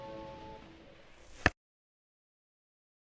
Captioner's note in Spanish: cajita cerrando; silencio